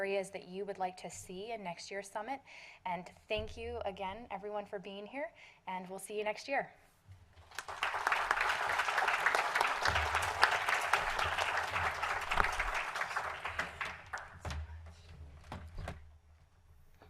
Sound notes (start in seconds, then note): 12.4 applause